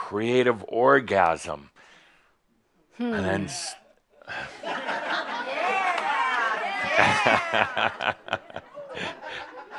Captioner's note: laughter and some others also shout “Yeah!!”